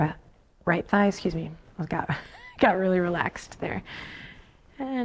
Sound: laughs

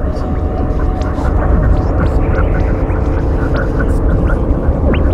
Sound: space sounds intensify

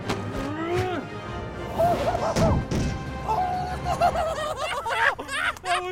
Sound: laughter

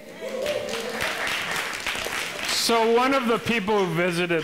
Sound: audience members laughing

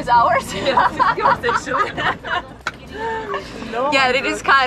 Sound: laughing

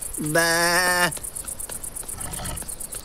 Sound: man grunting pathetically; man imitating sheep crying; crocodile grumbles

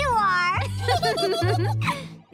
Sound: laughing

